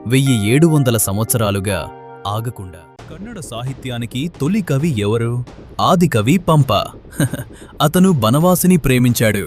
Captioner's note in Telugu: నవ్వు